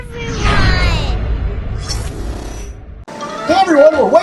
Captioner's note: swishing; fun music